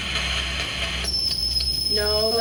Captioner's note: tone whining